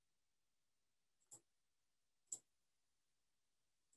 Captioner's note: clicking